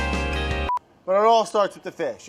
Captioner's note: beeping